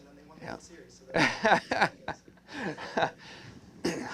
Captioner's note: laughter